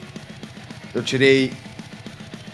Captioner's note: none